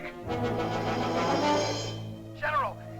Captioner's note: tank hisses